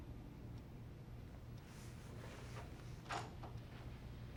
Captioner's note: ticking